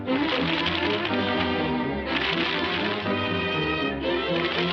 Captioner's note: upbeat dramatic music; paper rustling